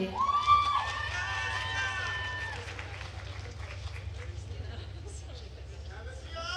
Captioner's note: attendees cheering and applauding